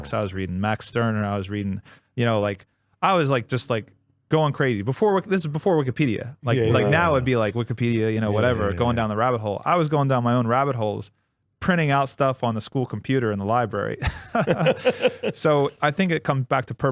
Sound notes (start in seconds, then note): 14.0 both laughing